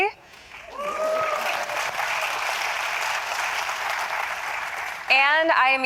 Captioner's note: applause and cheering